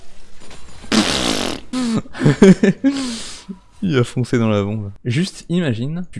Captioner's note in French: rire